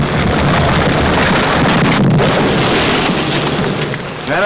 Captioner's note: rocks explode; rocks crumble